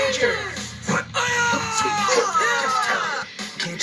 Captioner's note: screaming